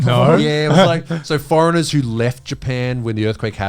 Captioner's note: all laughing